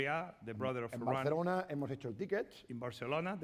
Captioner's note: speaking spanish